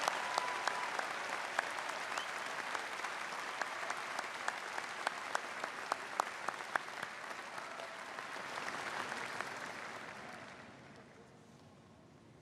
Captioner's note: applause